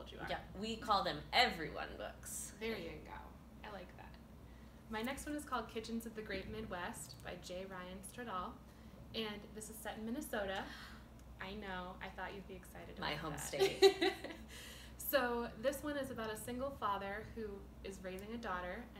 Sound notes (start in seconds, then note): 10.7 gasp; 13.6 laughter